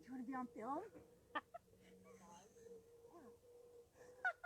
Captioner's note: laughing